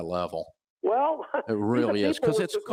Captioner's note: chuckles